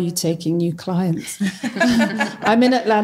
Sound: all laughs

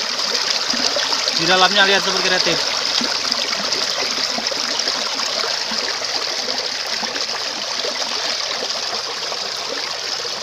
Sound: water sound

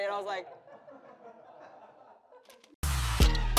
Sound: laughter

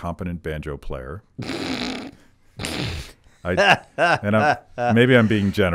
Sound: Thomas snickering and laughing

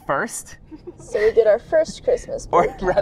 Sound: laughs

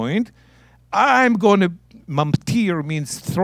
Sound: speaking in Hebrew

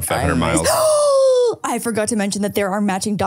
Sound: gasps

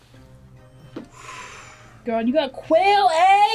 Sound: sighs

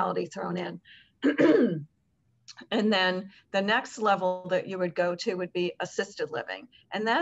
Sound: cough

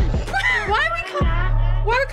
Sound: laughs

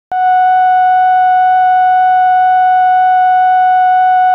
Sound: broadcast network beep

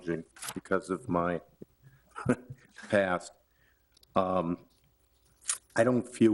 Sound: chuckles

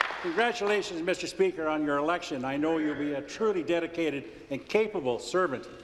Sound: applause

